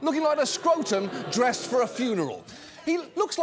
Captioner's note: audience booing